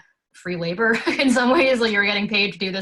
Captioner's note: laughs